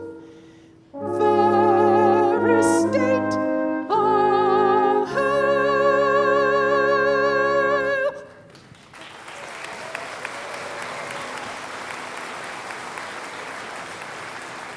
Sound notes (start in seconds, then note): 8.4 applause